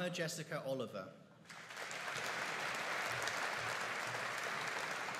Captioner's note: audience applauding